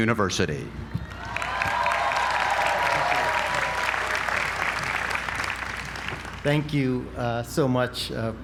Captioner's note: applause